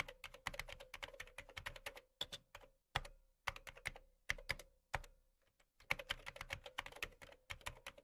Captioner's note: keyboard sound